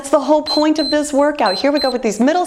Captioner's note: timer beeps